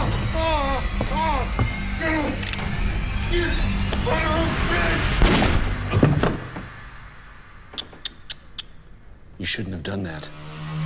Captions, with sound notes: (dramatic music) (cocks gun) (gun fires) You shouldn't have done that.